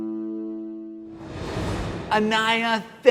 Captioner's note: air swooshing